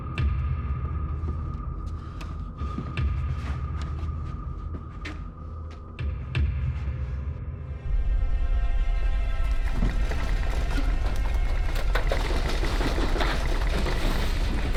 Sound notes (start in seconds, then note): 11.4 rattling and clattering